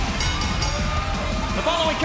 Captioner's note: bell ringing